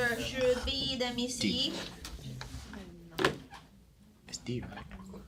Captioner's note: students murmur